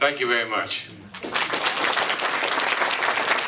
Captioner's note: applause